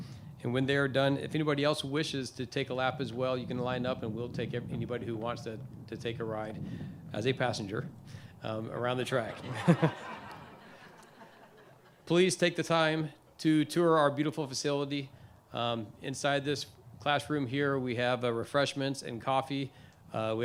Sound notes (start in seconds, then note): 9.2 laughing